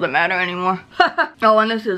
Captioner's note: laughs